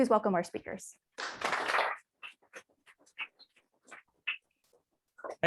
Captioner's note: audience clapping